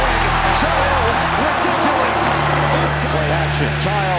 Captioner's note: crowd cheering